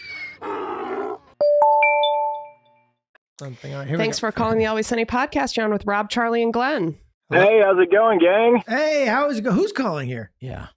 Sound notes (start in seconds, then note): 1.5 digital chiming